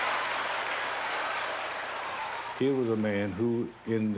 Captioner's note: applause